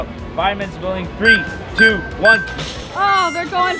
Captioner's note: timer beeps